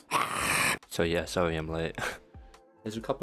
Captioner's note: feral scream; scoff